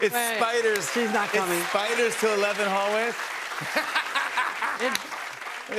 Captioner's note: laughs